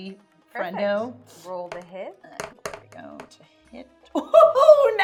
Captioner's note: die rolling